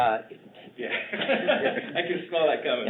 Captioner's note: both laugh